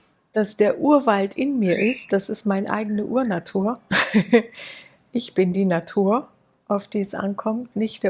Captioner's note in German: gelächter